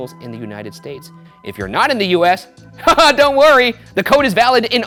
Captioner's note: chuckles